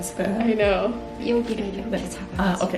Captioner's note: speaks in foreign language